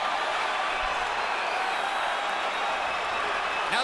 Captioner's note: crowd cheering